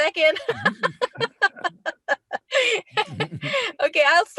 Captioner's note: laughing